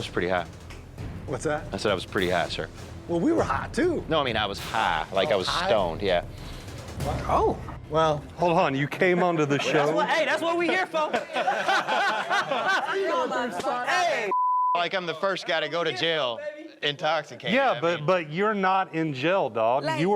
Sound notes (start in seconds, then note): 11.5 group laughing; 14.3 beep